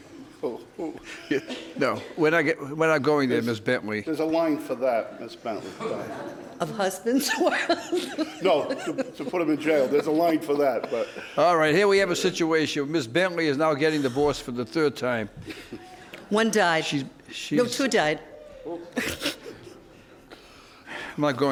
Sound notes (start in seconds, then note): 1.0 laughter; 7.2 laughing; 7.2 audience laughs; 18.7 chuckling; 18.8 audience murmurs